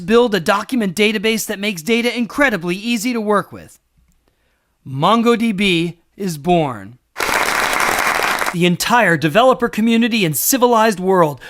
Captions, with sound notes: Let's build a document database that makes data incredibly easy to work with." MongoDB is born. [applause] -The entire developer community and civilized